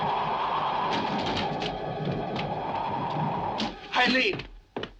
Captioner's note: windows bang